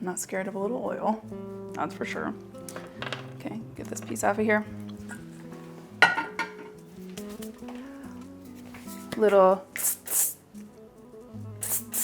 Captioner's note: spray noises